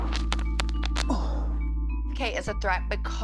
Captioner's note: bones cracking